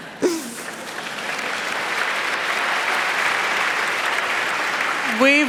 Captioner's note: applause